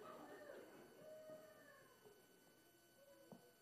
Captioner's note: audience laughing